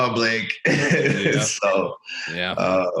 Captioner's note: chuckles